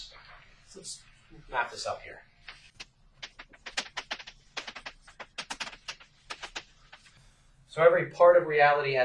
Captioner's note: writing on chalkboard sounds